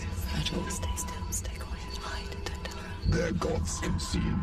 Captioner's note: voices chattering